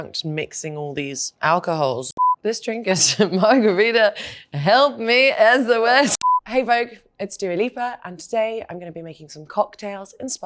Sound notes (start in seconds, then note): 2.1 beeps; 6.1 beeps